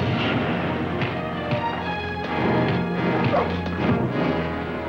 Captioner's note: scuffling; punching